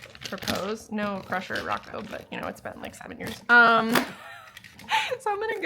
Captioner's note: laughs